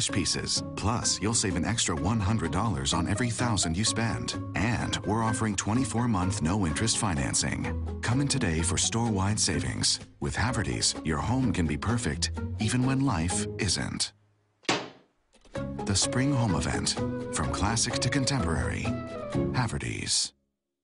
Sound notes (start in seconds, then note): 14.6 thwack